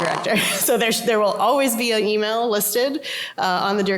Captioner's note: laughter